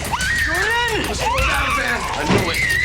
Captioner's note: baby shrieking